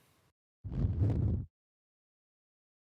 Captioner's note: silent; whoosh; silent